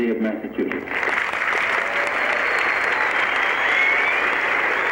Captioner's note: cheering